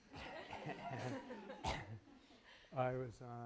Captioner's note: laughter